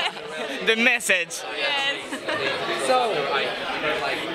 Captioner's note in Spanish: risas